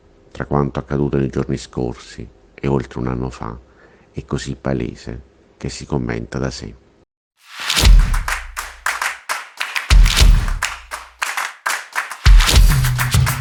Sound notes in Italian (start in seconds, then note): 7.7 Applauso